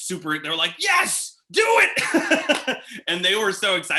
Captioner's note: laughs